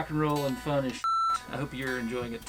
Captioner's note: beep